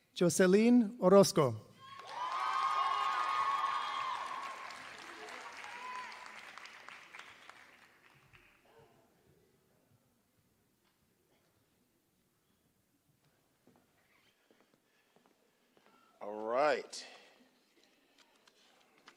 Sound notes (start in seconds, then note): 1.8 applause